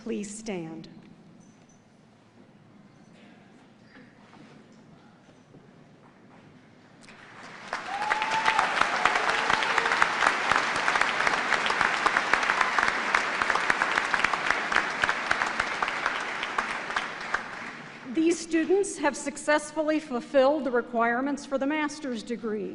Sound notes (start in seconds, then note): 7.0 applause